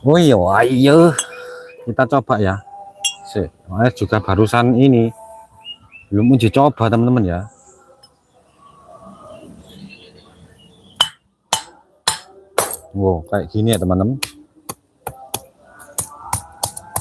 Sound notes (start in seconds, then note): 7.3 sound of Glass Breaking